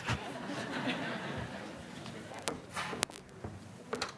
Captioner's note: audience laughing